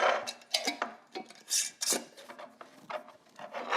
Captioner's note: lid scrapes